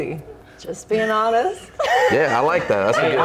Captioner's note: laughing